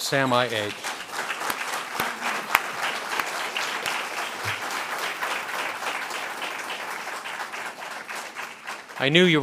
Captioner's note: a pplause